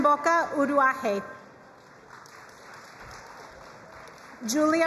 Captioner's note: crowd cheering and applauding